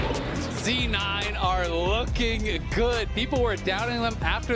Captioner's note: cheering